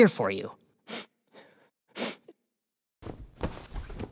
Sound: sniffs

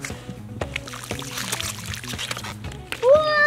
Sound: splashing

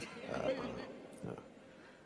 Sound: audience laughs

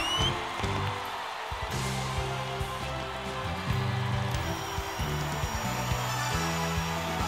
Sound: whistles; audience cheering

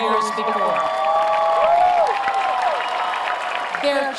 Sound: cheering

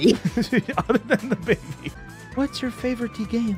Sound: laughs

